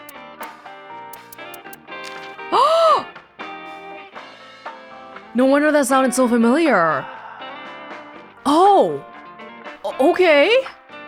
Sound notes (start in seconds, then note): 2.1 gasps